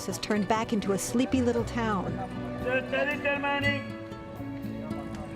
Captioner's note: speaking spanish